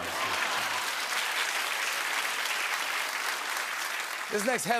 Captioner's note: applause